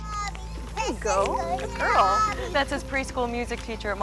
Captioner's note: child babbling